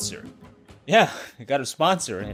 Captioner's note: chuckles